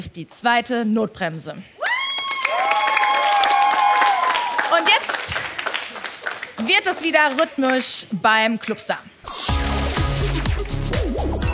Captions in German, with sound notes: und holen sich die zweite Notbremse. (Jubel und Applaus) Und jetzt wird es wieder rhythmisch beim Clubstar. (Dynamische Musik)